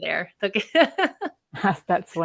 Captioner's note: laughs